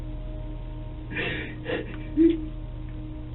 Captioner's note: sobs